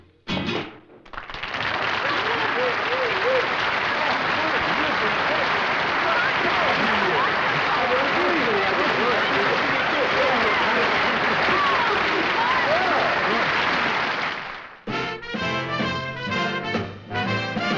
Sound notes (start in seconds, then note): 0.6 applause; 3.6 cheering and congratulating; 14.8 theme music playing